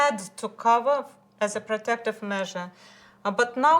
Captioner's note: none